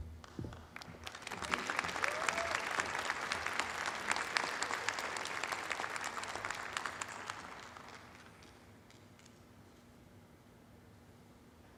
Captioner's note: applause